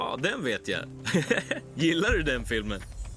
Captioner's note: chuckling